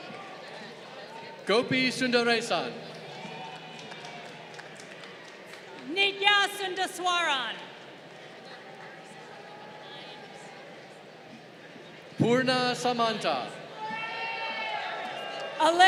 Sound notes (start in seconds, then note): 0.0 crowd cheering; 2.4 crowd applauding; 14.3 crowd cheering